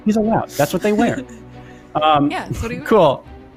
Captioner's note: laughs